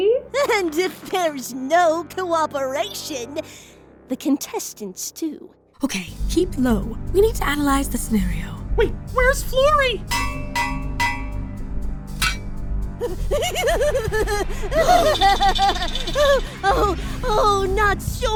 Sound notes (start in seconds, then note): 10.1 bang; 10.2 digging; 13.0 laughing